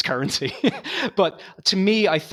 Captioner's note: laughing